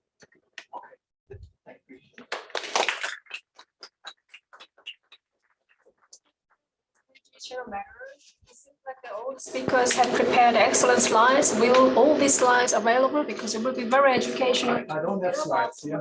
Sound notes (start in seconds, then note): 2.2 applause